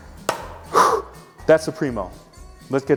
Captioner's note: metal clangs